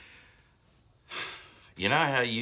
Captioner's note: sighs